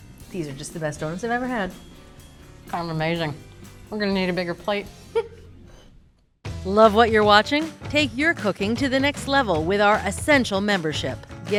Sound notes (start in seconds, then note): 5.1 chuckles